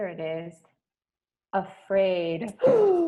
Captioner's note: whimpers